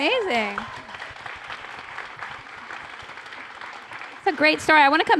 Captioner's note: applause